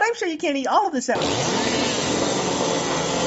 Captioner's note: instense buzzsaw like sound... probably the actual buzzsaw she ate earlier